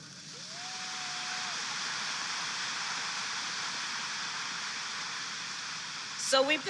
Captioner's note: applause